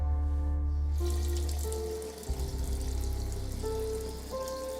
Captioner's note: tap running; poignant music continuing to play